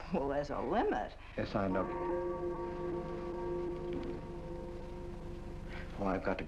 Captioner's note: clock gongs